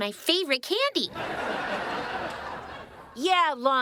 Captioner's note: audience laughing